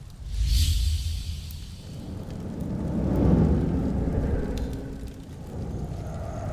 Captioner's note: whooshing; fire sizzling